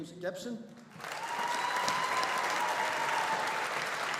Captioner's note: audience applauding